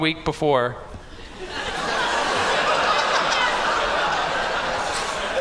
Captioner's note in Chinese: 笑聲